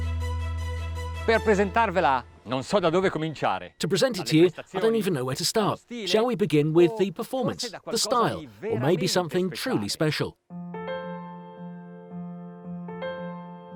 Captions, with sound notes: (speaking in foreign language) To present it to you, I don't even know where to start. Shall we begin with the performance, the style, or maybe something truly special? (gentle music)